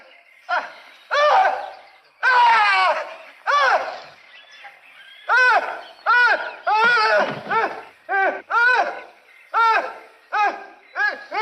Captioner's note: screaming